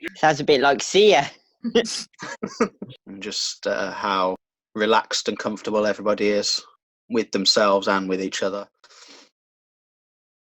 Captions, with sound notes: Sounds a bit like CYA! (Laughs) And just how relaxed and comfortable everybody is with themselves and with each other.